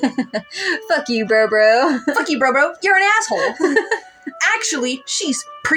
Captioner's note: laugh; laugh